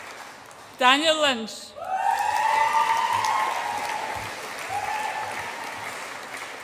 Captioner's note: audience applauds and cheers